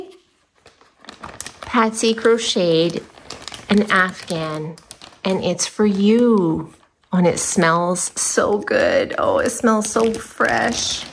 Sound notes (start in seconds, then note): none